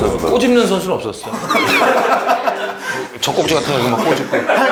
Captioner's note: ha ha ha ha ha